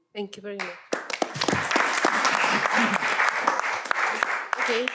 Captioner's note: applause